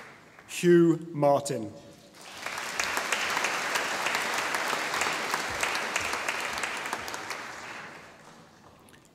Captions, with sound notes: Hugh Martin (audience applauding)